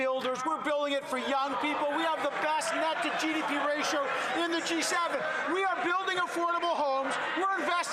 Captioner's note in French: voix de l'interprète